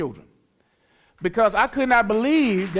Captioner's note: applause